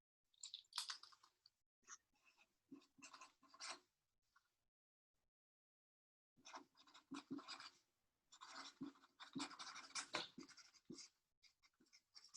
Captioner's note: silence